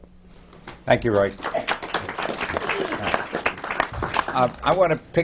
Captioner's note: applause